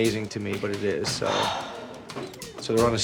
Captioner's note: sighs